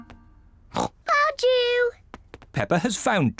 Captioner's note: snorts